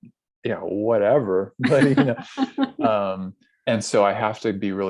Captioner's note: laughs